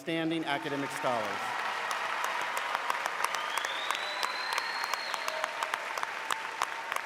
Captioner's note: audience applauding